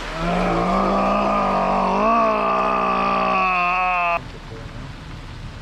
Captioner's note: growling in frustration